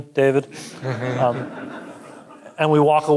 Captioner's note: audience chuckling